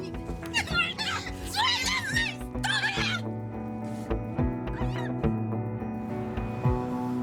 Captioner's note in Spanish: Gritos